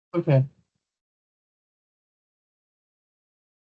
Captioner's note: silence